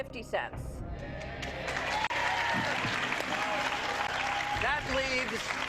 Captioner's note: audience cheering and clapping